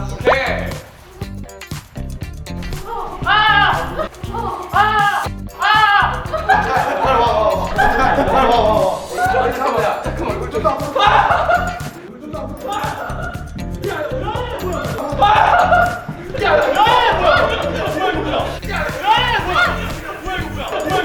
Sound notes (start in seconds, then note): 2.7 someone's scream suddenly echoes LOL